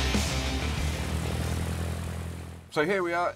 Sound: propeller whirs; aeroplane engine throbs

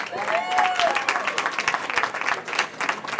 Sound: cheering

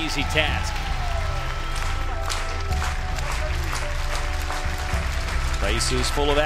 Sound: clapping

